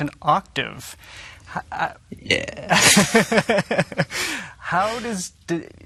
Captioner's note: laughing